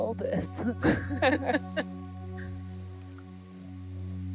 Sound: scientists laughing

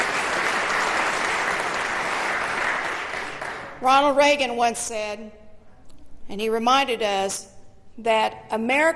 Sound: applause

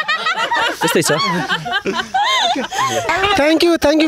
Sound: laughing

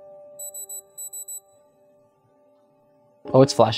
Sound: device beeps

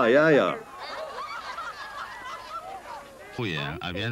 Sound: laughter

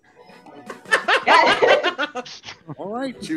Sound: laughs

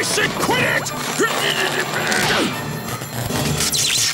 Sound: grunting

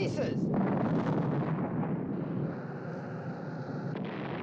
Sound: explosions Continue

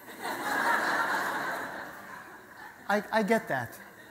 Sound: audience laughter

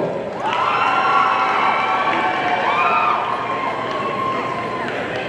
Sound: audience cheering

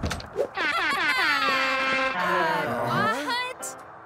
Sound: laughing; soft jazz music

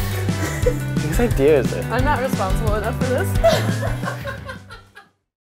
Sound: laughs

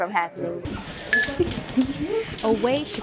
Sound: machine beeping

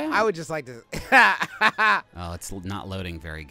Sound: chortling

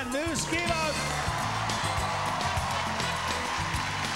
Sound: cheering and applause

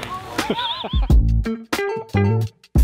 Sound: laughing; groovy music

